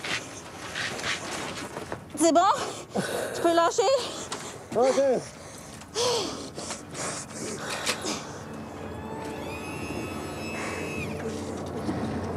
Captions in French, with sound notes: - C'est bon? Je peux lâcher? - Ouais, Jess. (soupir)